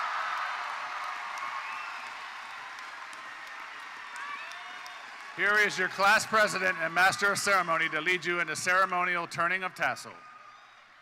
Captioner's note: cheers and Applause